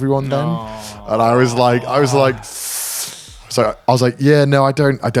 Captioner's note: inhales deeply